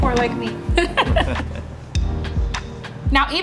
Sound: all laugh

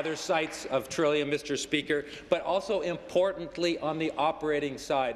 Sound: applause

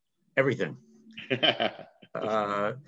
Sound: laughs

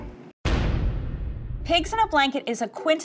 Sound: percussive hit

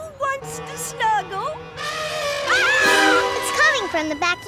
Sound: trumpeting, screaming

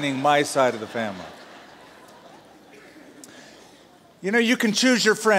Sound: laughter

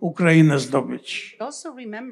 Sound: foreign language

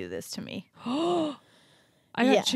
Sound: gasps

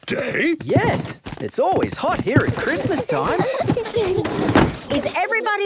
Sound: kids giggling

